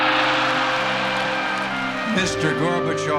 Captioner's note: cheering